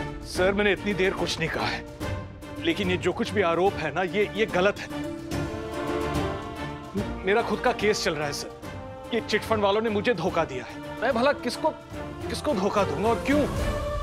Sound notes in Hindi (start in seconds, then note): none